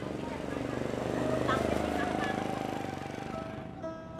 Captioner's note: passing traffic hums